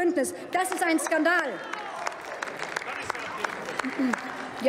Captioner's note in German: Beifall bei Abgeordneten der LINKEN